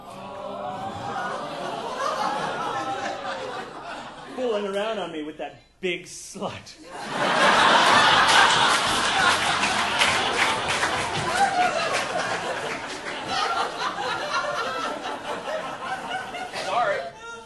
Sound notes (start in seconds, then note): 6.9 audience laughing